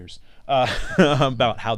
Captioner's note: laughs